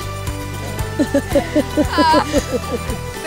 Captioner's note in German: Heitere Musik; Lachen